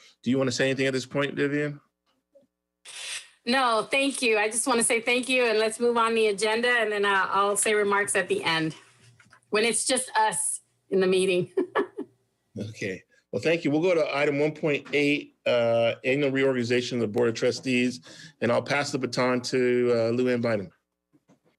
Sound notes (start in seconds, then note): 11.4 laughs